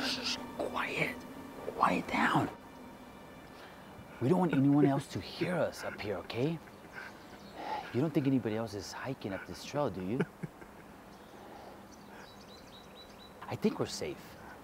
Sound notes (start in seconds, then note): 3.6 whispering